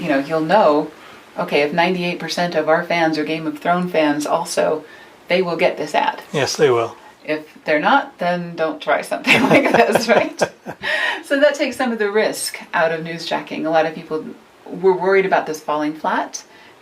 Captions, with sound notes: You'll know if 98 percent of our fans are "Game of Thrones" fans also, they will get this ad. - Yes they will. - If they're not then don't try something like this. (laughs) Right? So that takes some of the risk out of newsjacking. A lot of people were worried about this falling flat